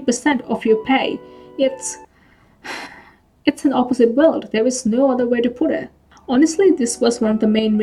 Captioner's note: sighs